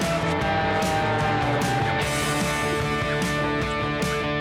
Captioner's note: airplane whirring; upbeat music